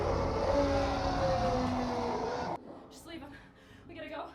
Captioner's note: roars